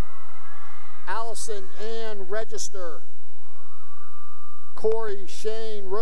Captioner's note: cheering